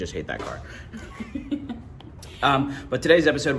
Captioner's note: laughing